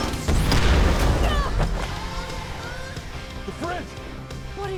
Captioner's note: bomb exploding